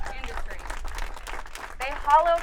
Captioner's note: audience clapping